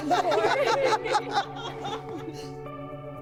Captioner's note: laughter